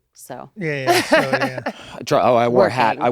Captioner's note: Mary Elizabeth laughing